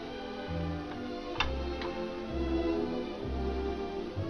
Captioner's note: line clicks